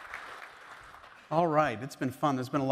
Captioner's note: applause